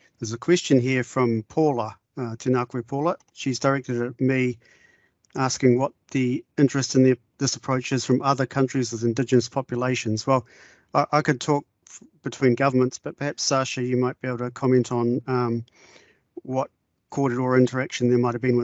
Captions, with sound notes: There's a question here from Paula. [speaking in te reo Māori] Tēnā koe Paula. She's directed at me, asking what the interest in this approach is from other countries with indigenous populations. Well, I could talk between governments, but perhaps Sacha, you might be able to comment on what korero interaction there might have been